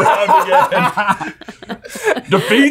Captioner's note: laughing